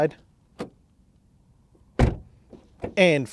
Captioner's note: door opening and closing